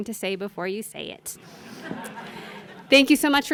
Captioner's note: laughter